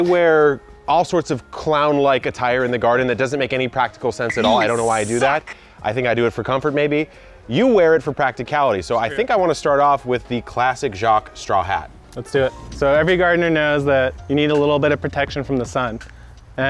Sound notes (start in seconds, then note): 4.6 voiceover